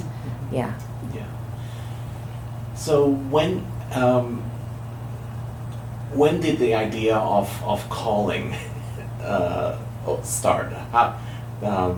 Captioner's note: laughs